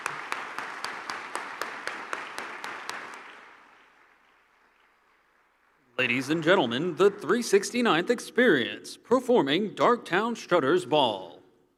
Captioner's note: applause